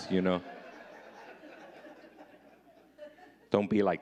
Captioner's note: audience laughing